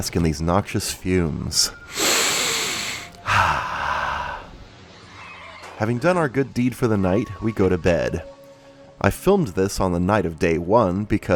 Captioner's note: inhales